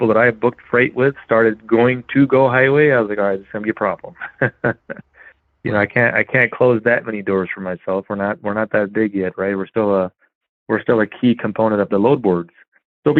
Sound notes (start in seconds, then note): 5.3 laughs